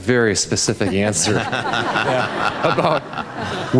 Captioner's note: audience laugh